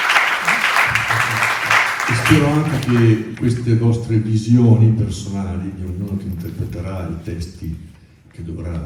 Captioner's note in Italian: Applauso